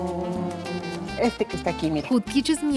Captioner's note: speaking Spanish